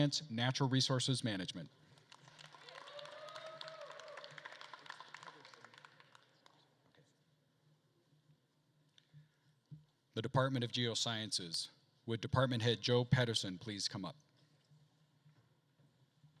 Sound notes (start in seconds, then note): 2.0 attendees applauding and cheering